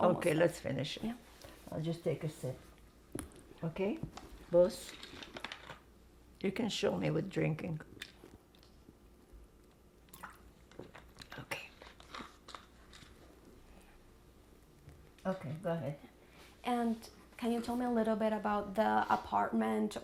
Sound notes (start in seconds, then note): 10.1 drinking